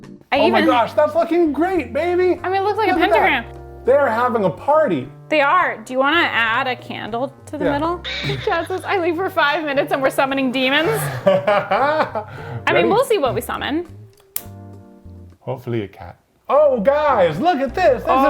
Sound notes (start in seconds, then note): 10.8 laughs